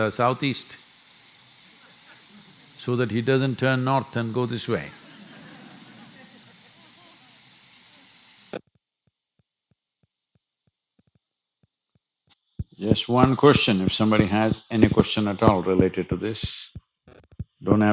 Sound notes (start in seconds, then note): 2.0 few laugh; 6.9 laughter